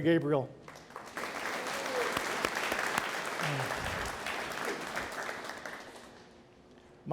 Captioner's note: audience applauds